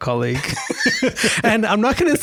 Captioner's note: laughs